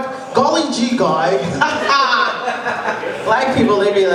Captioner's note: laugh loudly